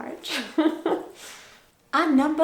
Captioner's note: giggles